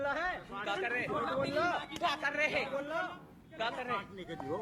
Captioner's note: speaking hindi